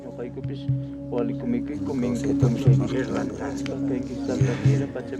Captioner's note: Spanish spoken audio